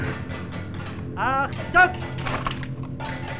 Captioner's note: German spoken audio